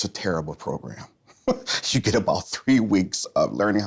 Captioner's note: chuckles